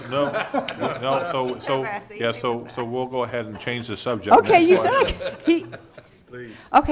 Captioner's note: laughing